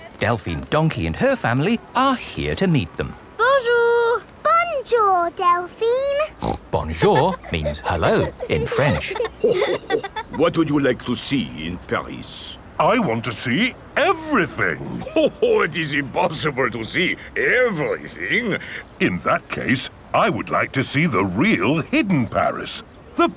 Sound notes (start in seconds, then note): 6.3 snorts; 9.6 chuckles